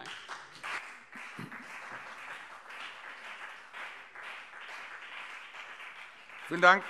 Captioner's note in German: Beifall CDU und BÜNDNIS 90/DIE GRÜNEN